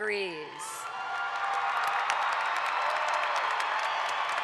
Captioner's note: audience applauds